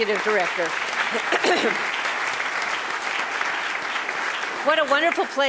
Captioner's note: audience applauding